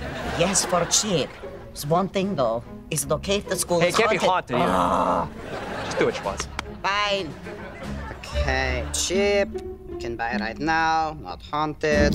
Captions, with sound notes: Yes, for cheap. There's one thing, though. Is it okay if the school is haunted? It can't be haunted. [Schwoz groaning] Do it, Schwoz. Bye. Okay, cheap, can buy right now, not haunted.